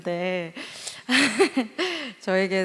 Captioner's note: laugh